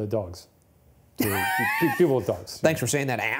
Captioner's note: chuckling